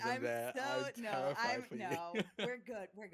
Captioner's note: laughing